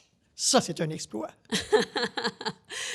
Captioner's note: laughs